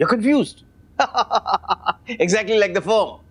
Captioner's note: laughing